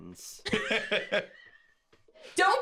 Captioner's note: laugh